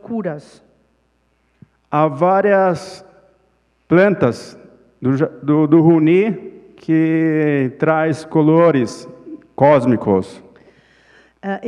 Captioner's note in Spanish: Ponente habla en portugués